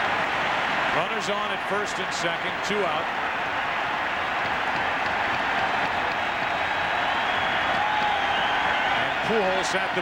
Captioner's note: cheers and applause